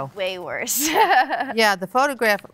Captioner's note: laughs